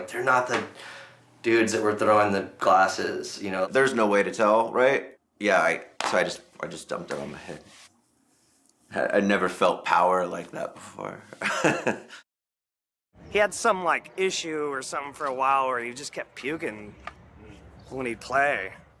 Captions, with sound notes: they're not the dudes that were throwing the glasses, you know? - There's no way to tell, right? Yeah, so I just dumped it on my head. I'd never felt power like that before. (laughs) - He had some like issue or something for a while where he just kept puking when he'd play.